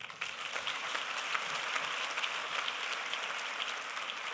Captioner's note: applause